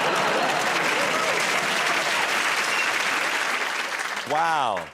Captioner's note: laughter; cheers and applause